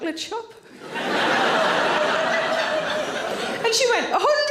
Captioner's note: audience laughing